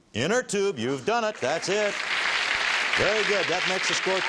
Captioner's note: applause